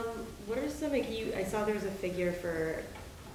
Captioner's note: woman's Voice